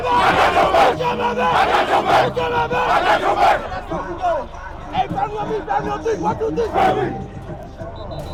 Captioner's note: chanting